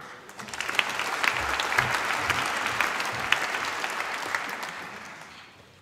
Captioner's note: applause